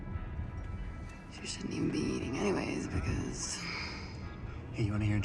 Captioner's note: sighs